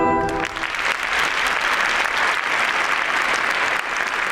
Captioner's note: audience applauds